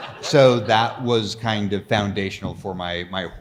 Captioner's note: audience laughs